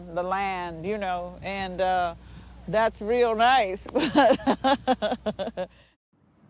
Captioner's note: laughing